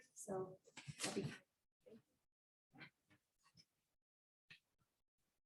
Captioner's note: indistinct conversation